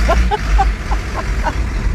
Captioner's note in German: Lachen